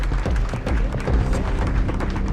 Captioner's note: crowd claps